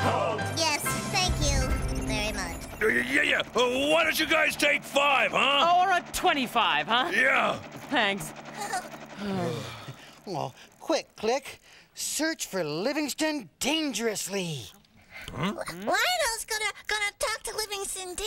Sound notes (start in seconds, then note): 0.1 dryly; 9.1 sighing